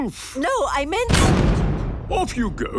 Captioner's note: blasts off